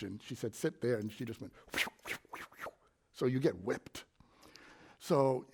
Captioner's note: air swooshes